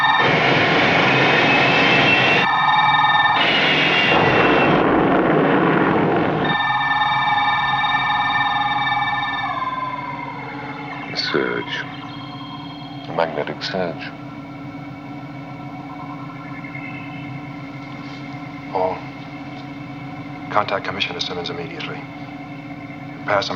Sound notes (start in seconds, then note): 2.5 monitor apitando rapidamente; 4.2 barulho de ônibus espacial; 6.6 monitor apitando